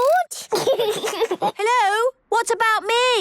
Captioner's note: giggles